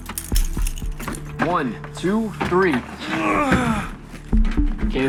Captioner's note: Maxwell groans